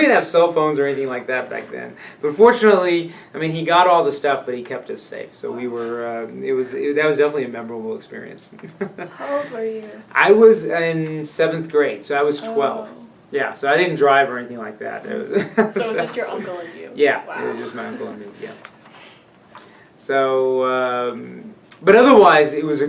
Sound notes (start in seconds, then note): 8.3 laughs; 15.6 laughs